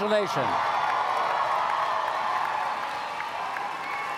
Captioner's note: applause